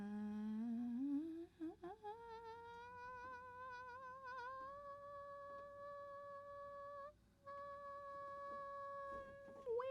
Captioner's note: quiet but high pitched worried vocalizing; strained